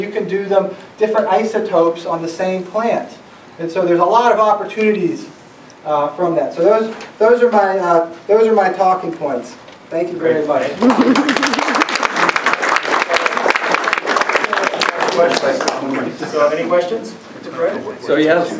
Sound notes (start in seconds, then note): 10.9 applauds